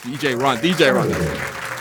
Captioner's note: applause